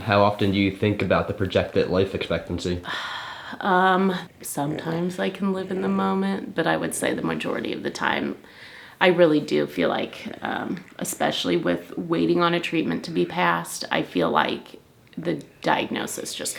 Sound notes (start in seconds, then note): 2.8 sighing